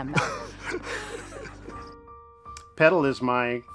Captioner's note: both laughing; laughs